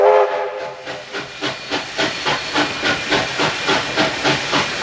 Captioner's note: Sounds of Hitachi and Tait trailer cars approaching